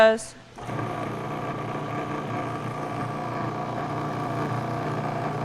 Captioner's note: food processor whirring